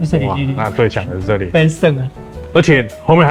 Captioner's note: in Taiwanese